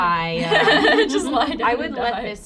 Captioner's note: laughter